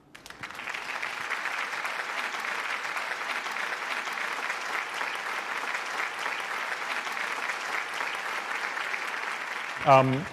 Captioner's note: applause